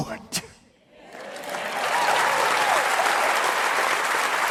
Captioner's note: audience applauding